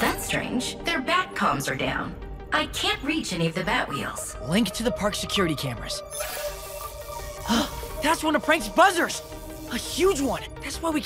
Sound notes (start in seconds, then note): 6.3 gasps